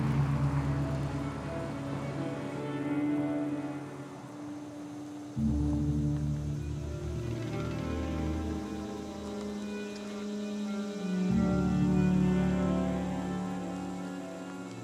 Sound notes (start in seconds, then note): 3.7 cicadas buzzing